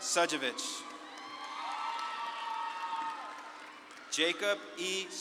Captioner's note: audience claps and cheers